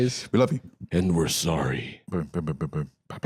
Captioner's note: deep voice